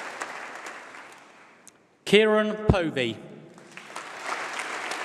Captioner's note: applause